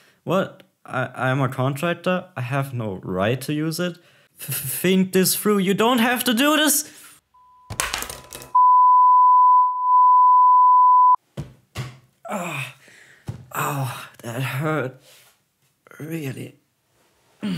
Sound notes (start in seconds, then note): 8.5 beeeeeeeeeeeeeeeep sound